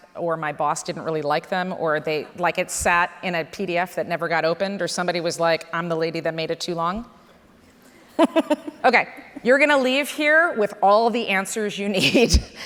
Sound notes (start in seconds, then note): 8.2 scattered laughter